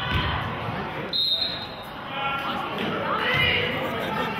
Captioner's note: whistle blows